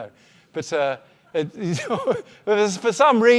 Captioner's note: laughs